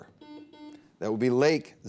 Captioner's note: buzzer beep